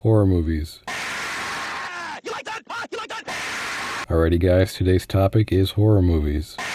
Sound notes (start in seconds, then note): 0.8 HL2 stalker scream; 6.6 HL2 stalker scream